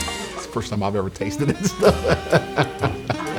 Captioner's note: laughs